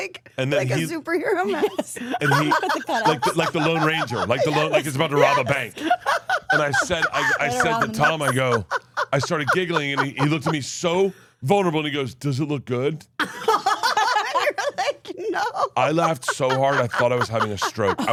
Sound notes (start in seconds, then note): 6.0 Steph laughs; 13.2 laugh